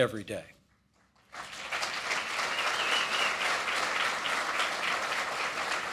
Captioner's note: applause